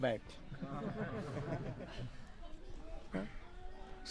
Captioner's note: смех